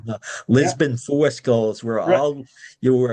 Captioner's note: speaking in foreign language